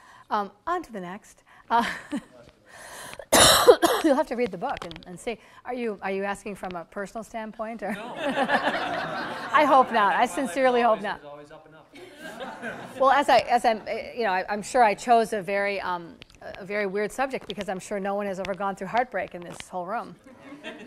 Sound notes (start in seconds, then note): 7.9 audience laughter